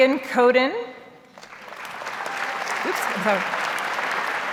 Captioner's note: audience applauds